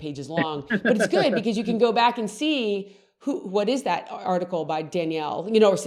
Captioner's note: laughs